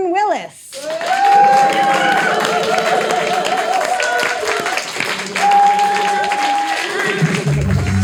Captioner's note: audience applauding, cheering; upbeat music